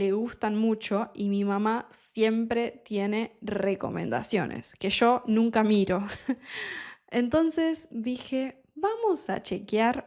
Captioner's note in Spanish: risas